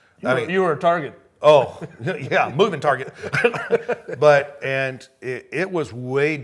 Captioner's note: laughing